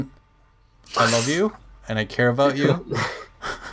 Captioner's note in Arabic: ضحك; ضحك بالخلفيه